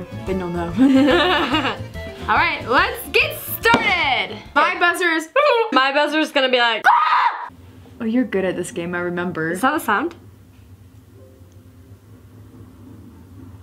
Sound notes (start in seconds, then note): 0.8 laughs; 5.2 trills